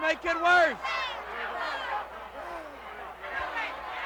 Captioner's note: crowd yelling